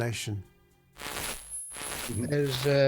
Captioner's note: static crackling